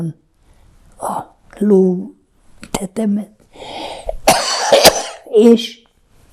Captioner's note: coughing